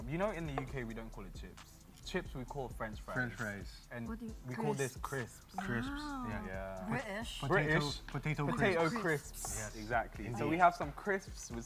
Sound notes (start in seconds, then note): 7.4 in a british accent